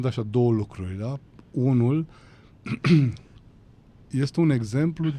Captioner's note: strained voice; cough